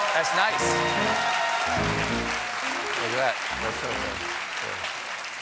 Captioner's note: cheers and applause; piano riff